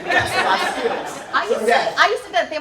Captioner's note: laughter